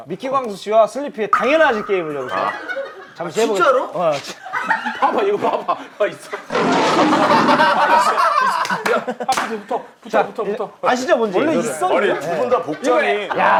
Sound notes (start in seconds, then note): 7.9 laughing